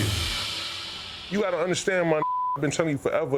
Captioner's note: beep